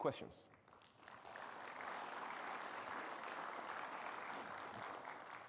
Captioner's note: audience clapping